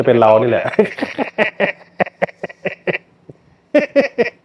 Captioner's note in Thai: เสียงหัวเราะ